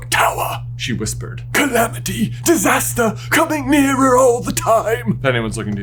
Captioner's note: Trewlawney voice